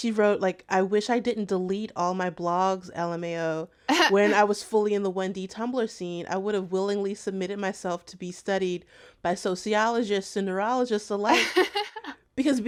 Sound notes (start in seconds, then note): 11.2 laughter